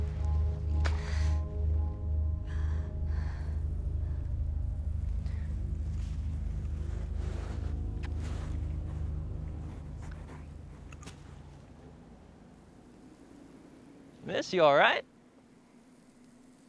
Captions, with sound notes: (WHISPERING) I'm sorry. Miss, you all right?